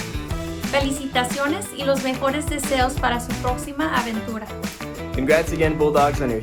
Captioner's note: speaking foreign language